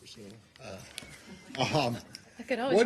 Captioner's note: laughter